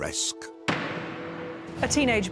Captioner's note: hammer clunking